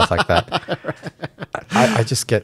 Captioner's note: laughing